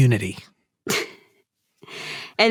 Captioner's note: chuckles